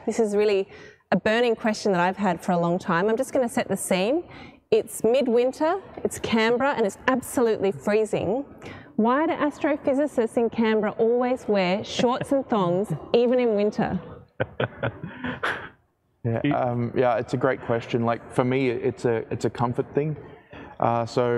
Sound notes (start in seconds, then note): 14.2 laughs